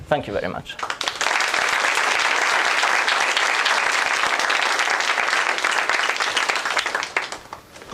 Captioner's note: applause